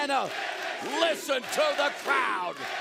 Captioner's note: fans chanting